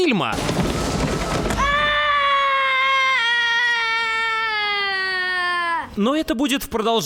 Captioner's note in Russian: крик